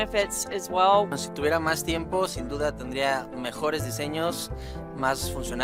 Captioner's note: speaking Spanish